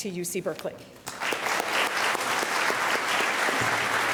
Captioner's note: clapping